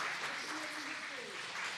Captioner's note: applause